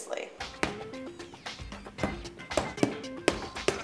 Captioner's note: hammering